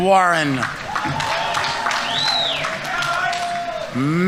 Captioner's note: audience applauding; audience members cheering